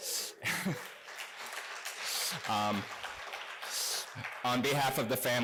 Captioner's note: applause